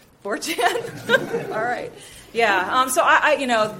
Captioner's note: audience laughs